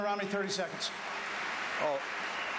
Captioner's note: applause